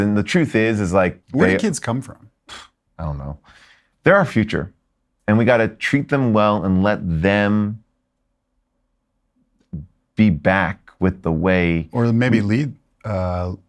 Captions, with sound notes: and the truth is, is like, they- - Where do kids come from? - (flutters lips) I don't know. They're our future, and we gotta treat them well and let them be back with the way- - Or maybe lead...